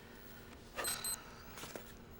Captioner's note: watch beeps